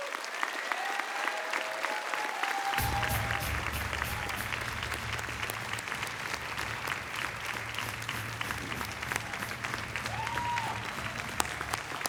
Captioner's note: applause